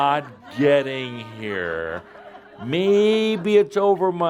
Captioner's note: more laughter